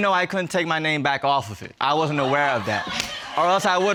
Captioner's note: audience laughing